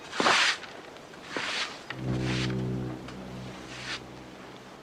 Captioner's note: distant foghorn